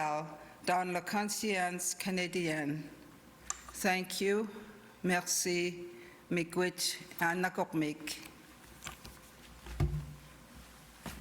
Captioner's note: speaking inuktitut